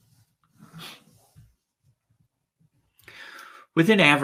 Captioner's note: arm shuffling